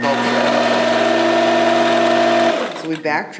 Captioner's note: machine whirring